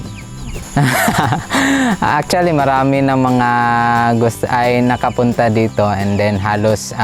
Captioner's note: laughs